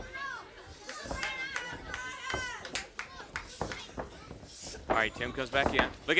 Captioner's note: crowd cheering; crowd cheering and clapping